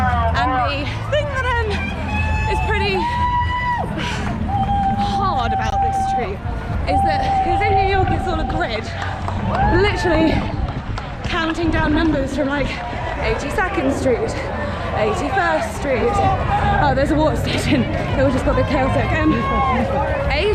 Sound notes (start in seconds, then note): 4.6 sigh